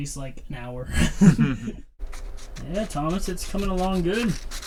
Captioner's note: laughs